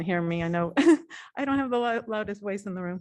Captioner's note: laughter